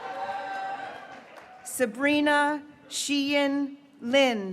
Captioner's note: graduates cheering